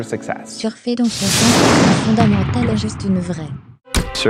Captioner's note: whooshing